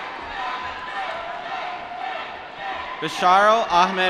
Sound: applause

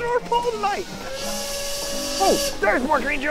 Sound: train whistle blows

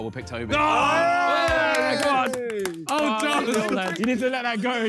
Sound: all exclaiming

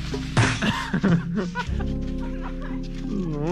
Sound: laughing

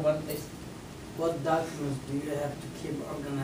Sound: voiceover

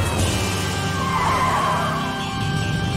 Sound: tires squealing

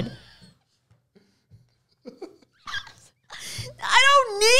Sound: laughing

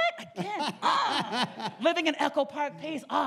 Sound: laughs

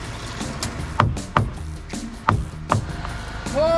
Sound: hammering

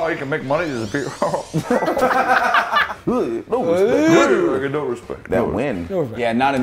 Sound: laugh

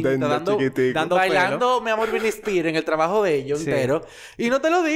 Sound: laughs

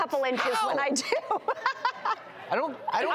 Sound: laughs

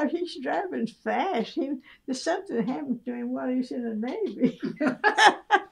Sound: laughter

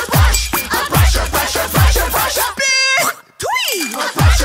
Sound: spitting sound

